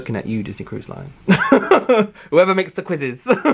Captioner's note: laughs